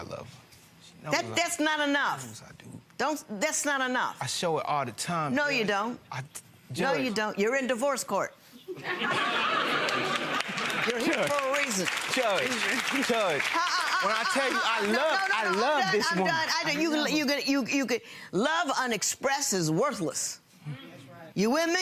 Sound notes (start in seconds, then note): 8.7 audience laughing